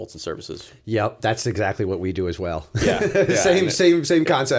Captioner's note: chuckle